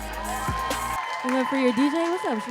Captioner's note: audience cheering